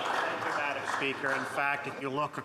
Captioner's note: some Applause